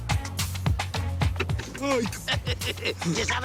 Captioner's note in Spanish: Toques en el cristal